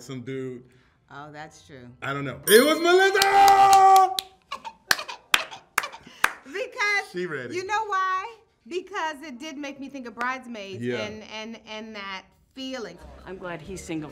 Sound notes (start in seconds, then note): 2.4 bell chimes